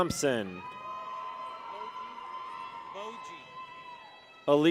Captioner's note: people cheer